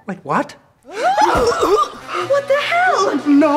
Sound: angel screams

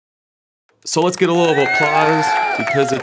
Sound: audience applauds

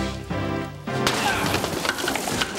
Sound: grunting, thudding

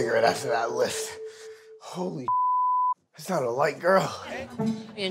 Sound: beep

